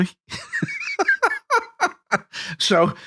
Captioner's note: laughing